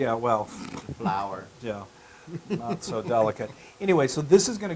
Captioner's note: laugh